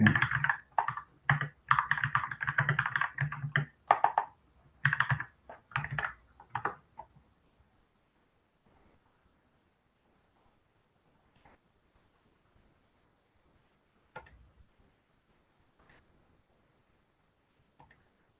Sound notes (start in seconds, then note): 0.6 pause